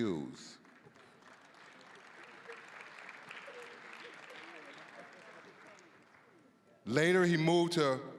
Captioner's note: applause